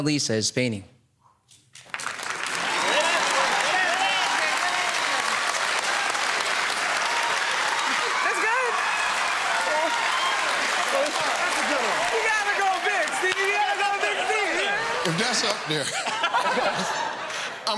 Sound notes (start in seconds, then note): 2.1 cheers and applause